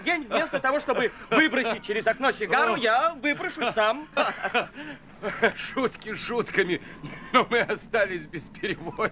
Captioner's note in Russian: смех; смех